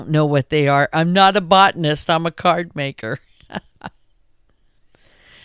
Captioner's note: laughs